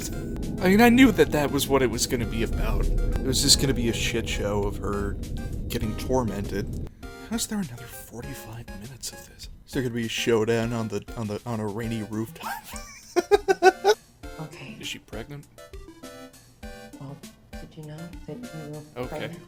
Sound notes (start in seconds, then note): 12.9 wheezing laughter